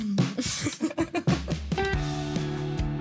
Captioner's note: laughing